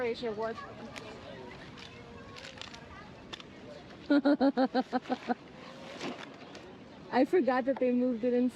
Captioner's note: laughing